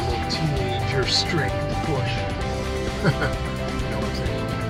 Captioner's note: laughing